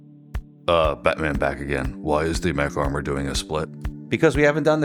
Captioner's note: Deep Batman Voice